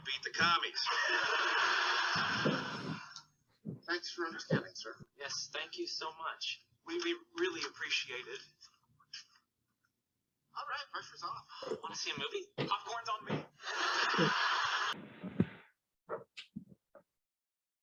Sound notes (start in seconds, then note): 2.5 audience laughing; 13.6 audience laughing